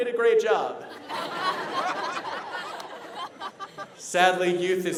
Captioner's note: laughter